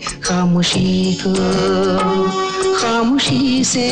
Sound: none

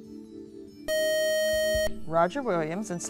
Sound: buzzer

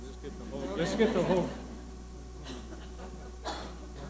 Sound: audience laughing

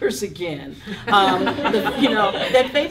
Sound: laughing

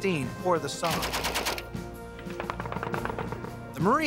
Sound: gun shots

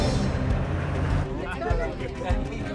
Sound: chattering

